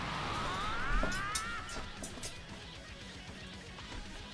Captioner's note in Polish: krzyk